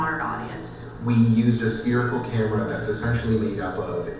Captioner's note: voiceover